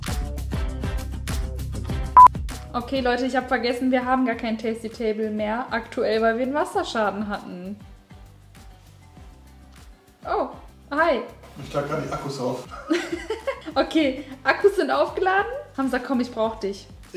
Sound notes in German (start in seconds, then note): 12.7 beide lachen